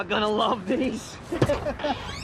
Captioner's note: chuckling